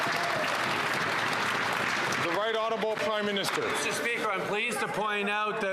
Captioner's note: some Applause